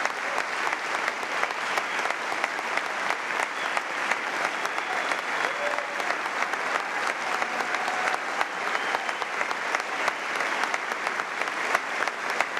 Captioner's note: applause; cheers and applause